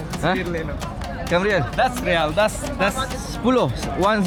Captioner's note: speaking Arabic